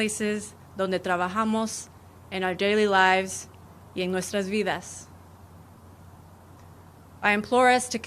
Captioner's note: speaking spanish